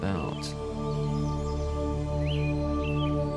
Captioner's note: birds chirping